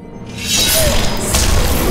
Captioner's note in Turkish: Kılıç çekme sesi